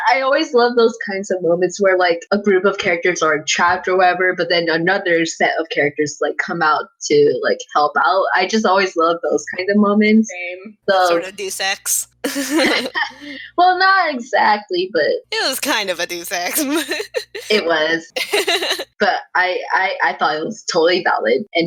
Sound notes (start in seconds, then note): 11.0 laugh; 18.1 giggling